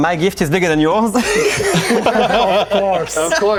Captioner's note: laughing